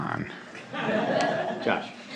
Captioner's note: laughter